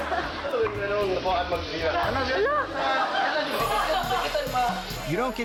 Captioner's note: audience laughing; people speaking in a foreign language